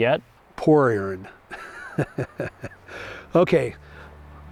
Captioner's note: laughing